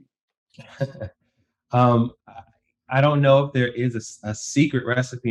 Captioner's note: chuckle